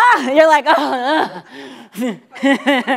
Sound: laughs

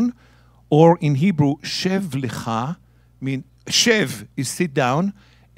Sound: speaking in Hebrew

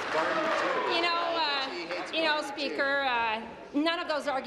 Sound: applause

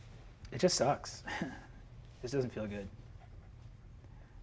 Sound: chuckles awkwardly

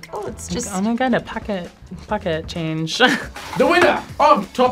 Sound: laughs

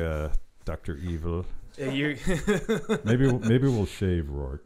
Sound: laughing

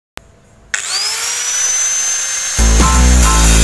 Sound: sound of grinding machine

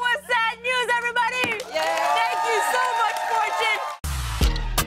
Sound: cheers and applause

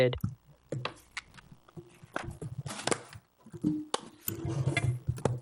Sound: objects clattering

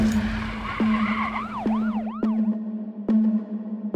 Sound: sirens wailing, tires squeal

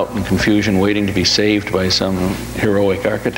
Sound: none

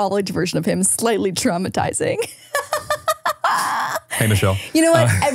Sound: laughs

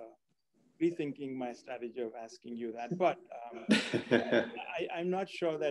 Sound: laugh

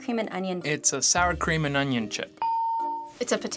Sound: ding

